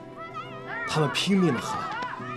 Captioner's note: they shouted at the top of their voice